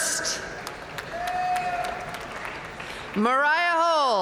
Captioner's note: audience cheering and applauding